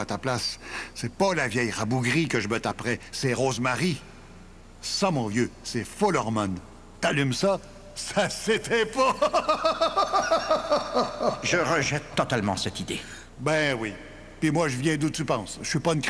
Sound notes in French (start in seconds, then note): 8.9 Rire sardonique